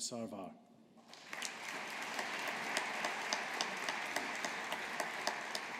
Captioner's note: audience applauding